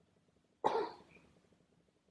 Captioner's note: coughs